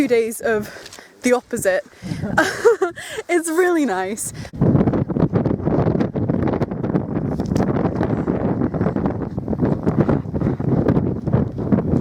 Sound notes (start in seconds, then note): 5.6 intense wind